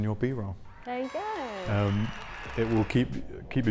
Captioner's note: party horns play and crowd cheers